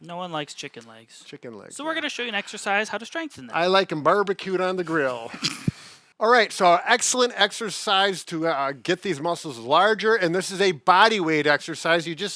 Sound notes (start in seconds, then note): 5.0 laughs